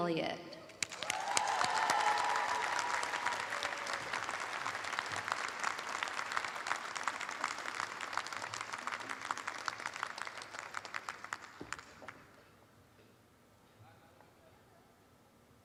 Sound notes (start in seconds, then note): 2.4 applause